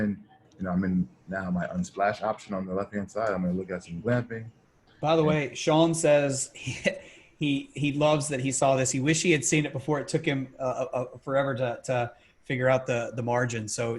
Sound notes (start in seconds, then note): 6.5 chuckles